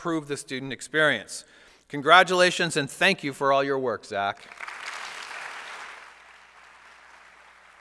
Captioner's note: applause